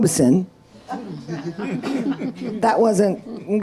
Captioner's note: audience laughing